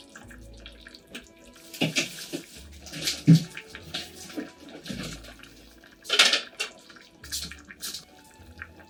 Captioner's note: bubbling